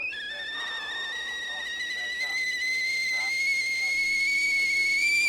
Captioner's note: sound of boiling kettle